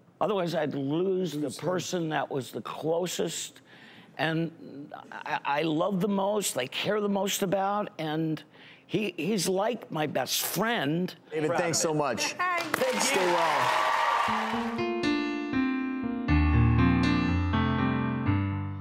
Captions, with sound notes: otherwise I'd lose the person Lose him. that was the closest and I love the most, I care the most about and he's like my best friend. David, thanks so much. (audience applauding) Thank you. (somber instrumental music)